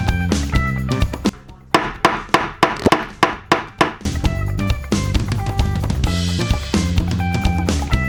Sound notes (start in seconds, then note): 1.7 hammer Sounds